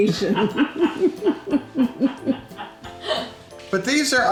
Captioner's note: people laughing